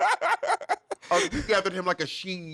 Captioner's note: laughing